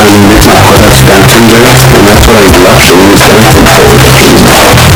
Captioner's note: speaking alternate language